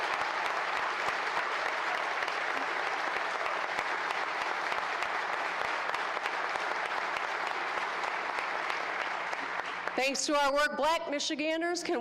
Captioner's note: applause